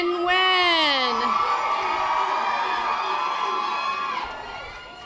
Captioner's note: audience applause